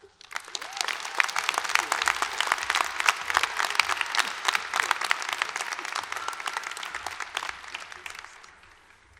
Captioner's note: applause